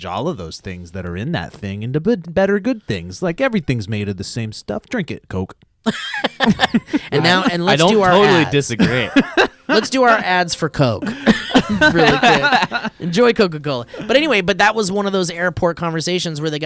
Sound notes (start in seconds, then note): 5.8 guys laughing; 9.3 laughing; 11.0 guys laughing